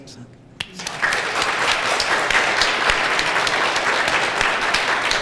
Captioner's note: applause